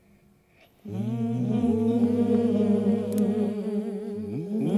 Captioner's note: humming